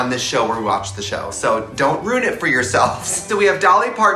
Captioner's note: chuckles